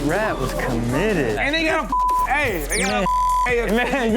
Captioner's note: beep